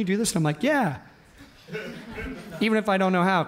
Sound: audience laughs

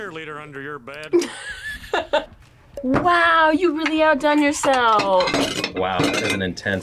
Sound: laughs

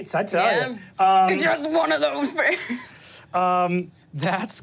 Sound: laughs

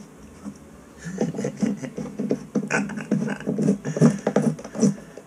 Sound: laughs

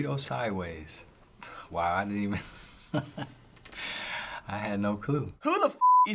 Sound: chuckles

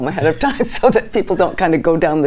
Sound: laughing

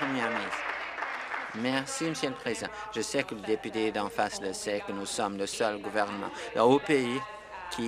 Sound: applause

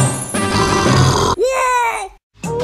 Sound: growl

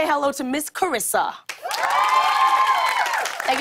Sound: cheers and applause

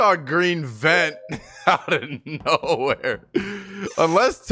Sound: laughs

